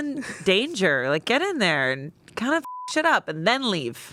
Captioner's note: beep